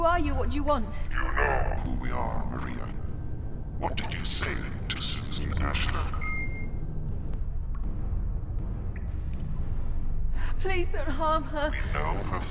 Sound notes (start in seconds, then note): 6.0 beep; 6.7 threatening music